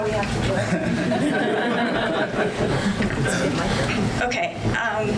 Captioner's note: audience laughs